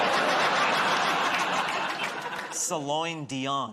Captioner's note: laughter